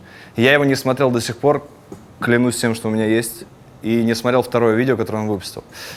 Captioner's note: none